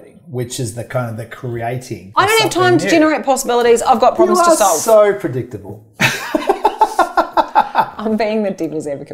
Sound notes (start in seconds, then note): 6.0 laughs